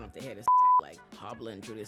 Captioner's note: beep